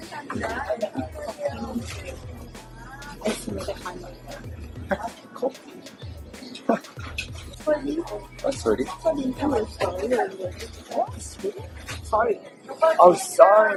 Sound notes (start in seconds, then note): 3.8 imitating korean english accent